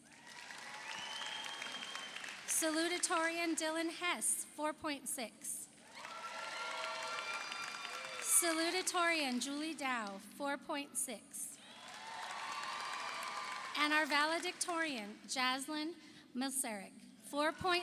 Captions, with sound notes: (audience applauds) (audience cheers) Salutorian Dylan Hess 4.6, (audience applauds) (audience cheers) Salutorian Julie Dow 4.6, (audience applauds) (audience cheers) And our valedictorian Jaslin Milcarek 4.650.